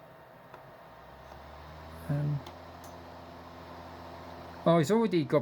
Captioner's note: laptop dvd drive spinning